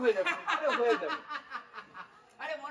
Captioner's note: laughing